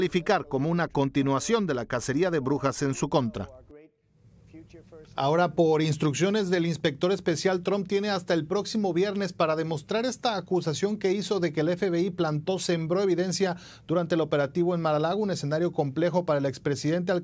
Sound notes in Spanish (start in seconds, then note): 1.8 HABLAN EN INGLéS